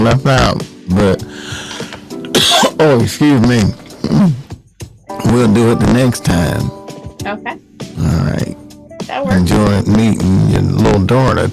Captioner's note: cough